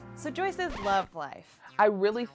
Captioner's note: record scratch